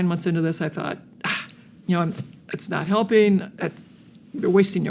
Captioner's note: scoffs